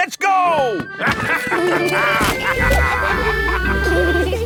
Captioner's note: all laughing